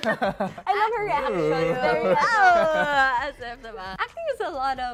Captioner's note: laughter; chuckles